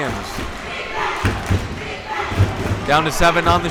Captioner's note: crowd chanting defense